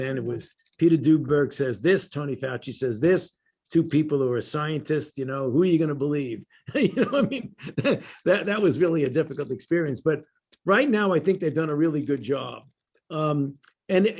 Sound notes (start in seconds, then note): 6.7 laughter